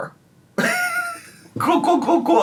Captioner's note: chuckling